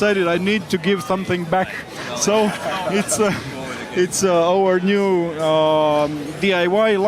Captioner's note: laughing